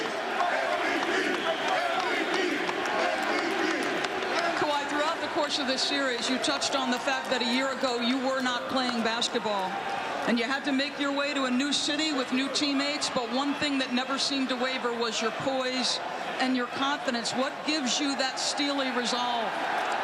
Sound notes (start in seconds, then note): 1.1 cheers and applause